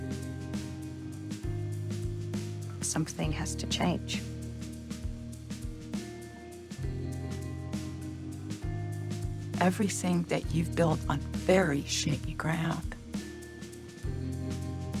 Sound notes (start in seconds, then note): 3.0 voiceover; 10.0 voiceover